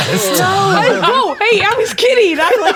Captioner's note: players laughing